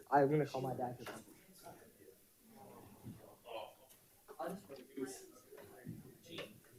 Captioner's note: participants chattering off microphone